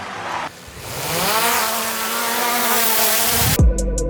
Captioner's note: drone buzzing; upbeat hip hop